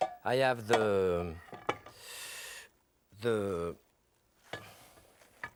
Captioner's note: dishes clattering